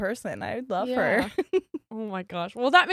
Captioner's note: giggles